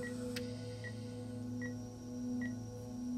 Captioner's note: respirator working